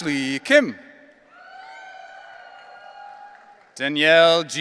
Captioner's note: audience cheering